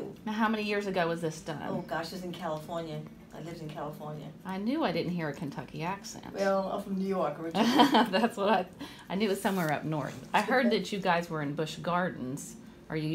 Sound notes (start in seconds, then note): 8.9 laughs